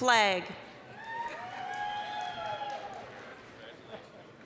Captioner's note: applause, cheering